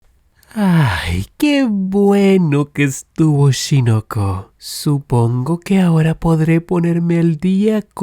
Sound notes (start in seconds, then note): 0.4 sigh